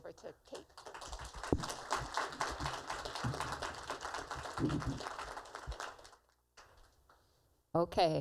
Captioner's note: applause